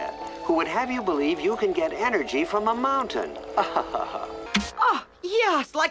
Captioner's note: laughing